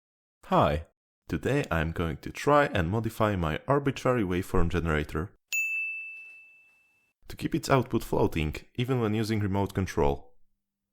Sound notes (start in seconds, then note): 5.5 ding